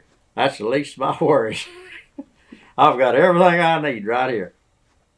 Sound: laughs

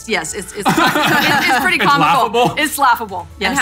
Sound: laughing

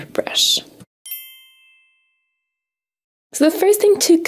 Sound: chiming

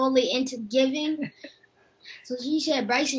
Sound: mom laughs

